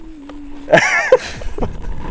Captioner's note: laughs